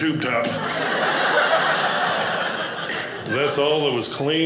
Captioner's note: audience laughing